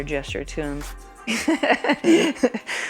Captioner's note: laughing